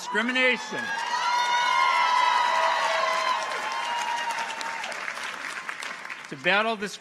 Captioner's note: audience cheers; audience applauds